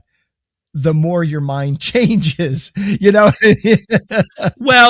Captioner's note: chuckling